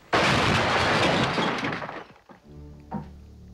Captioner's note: crashing